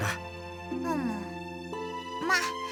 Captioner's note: acknowledging hum